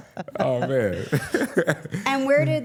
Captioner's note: laughs